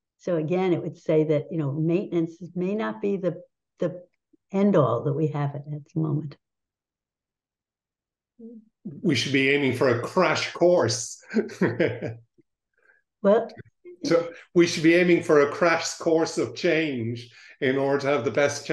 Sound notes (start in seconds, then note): 11.2 laughs